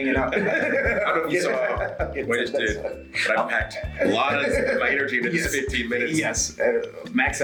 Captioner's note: laugh